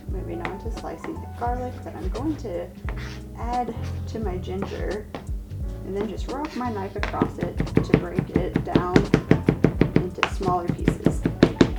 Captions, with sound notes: Moving on to slicing the garlic that I'm going to add to my ginger, and then just rock my knife across it to break it down (knife pounds) into smaller pieces.